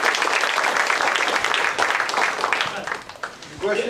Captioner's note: applause